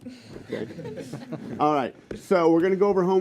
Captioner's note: laughter